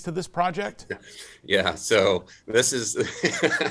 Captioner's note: laughs